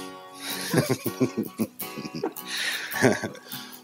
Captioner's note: laughing